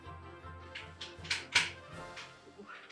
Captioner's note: creaks